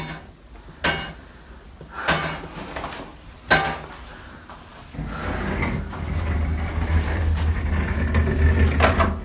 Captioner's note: metal banging